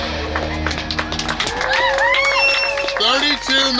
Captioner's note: clapping